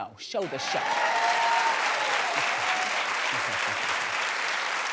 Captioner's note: audience cheers